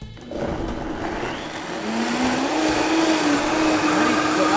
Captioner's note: blender buzzing